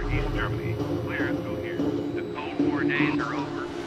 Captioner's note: radio interference